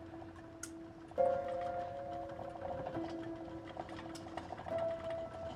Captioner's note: tea pot rattles softly